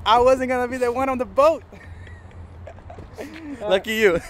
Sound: laughs

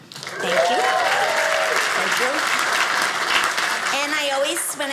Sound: audience applauding

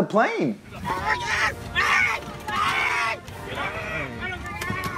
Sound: screaming

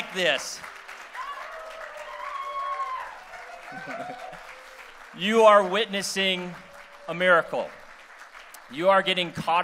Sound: applause

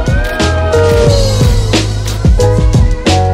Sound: crowd cheering; upbeat music

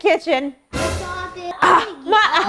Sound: dramatic sound

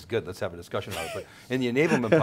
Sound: laughs

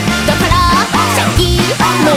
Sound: whoo

